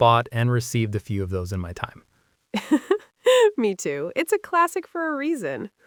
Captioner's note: laughs